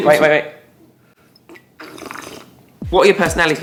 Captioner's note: loud sip